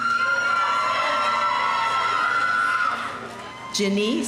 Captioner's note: audience cheering